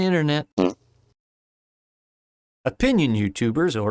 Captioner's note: fart noise